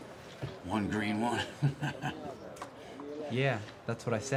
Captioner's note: laughs